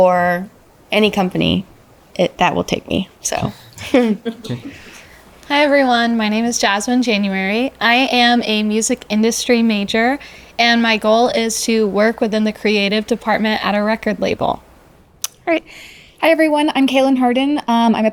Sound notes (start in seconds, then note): 3.4 laughs